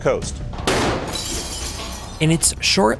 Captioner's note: glass breaking